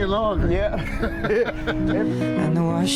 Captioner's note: laughing